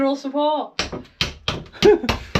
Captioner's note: hammering